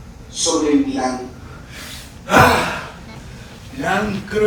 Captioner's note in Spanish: Exhala fuertemente